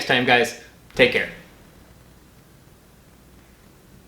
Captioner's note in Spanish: Silencio